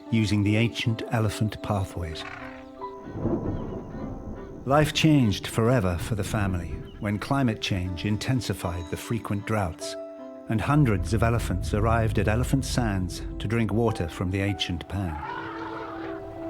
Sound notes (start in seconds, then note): 2.8 thunder rumbling